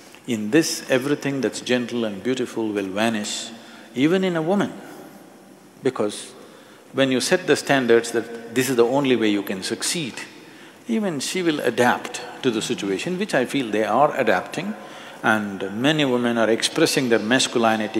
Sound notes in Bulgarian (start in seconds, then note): none